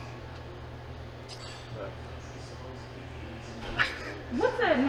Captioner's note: laughing